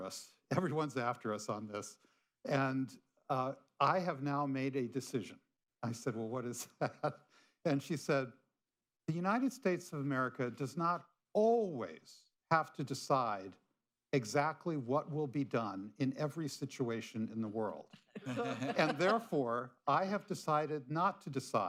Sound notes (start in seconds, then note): 2.5 laughs; 18.0 laughter